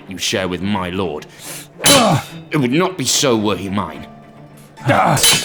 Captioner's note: swords Clash